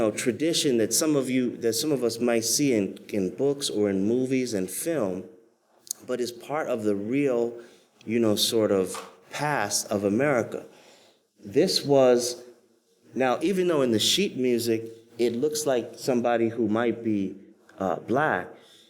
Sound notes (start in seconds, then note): none